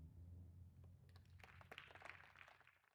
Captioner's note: clapping